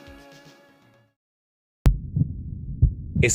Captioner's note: heartbeat